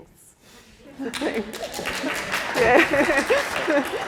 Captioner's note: applause